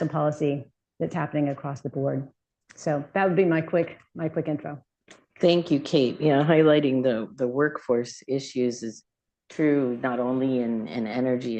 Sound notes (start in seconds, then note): none